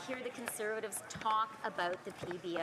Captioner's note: some Applause